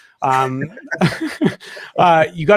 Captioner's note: all laughing